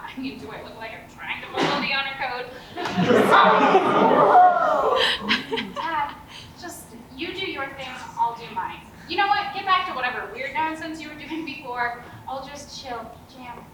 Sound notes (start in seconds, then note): 2.8 audience laughs; 4.6 audience ohhhs